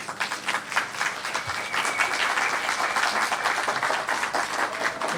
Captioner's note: applause